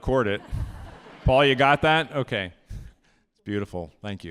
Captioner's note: audience laughing